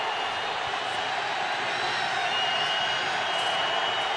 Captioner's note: crowd cheering